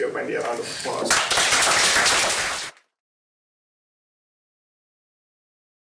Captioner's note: applause